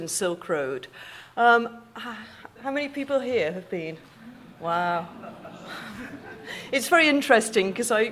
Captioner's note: audience laughing